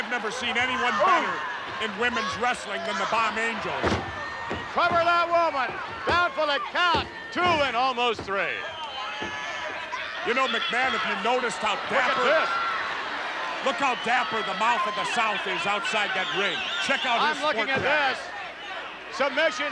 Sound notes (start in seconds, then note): 3.5 body thuds